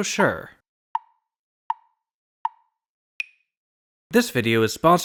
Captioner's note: tick, tick, tick, tick, tock